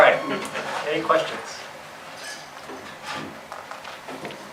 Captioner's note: voiceover